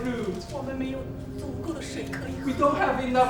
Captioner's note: speaking in a foreign language